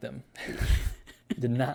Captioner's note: laughs